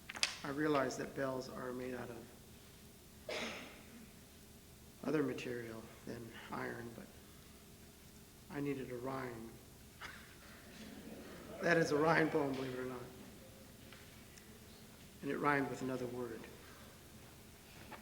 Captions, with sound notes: I realize that bells are made out of other material than iron, but I needed a rhyme. [Laughter] That is a rhyme poem, believe it or not, and it rhymed with another word.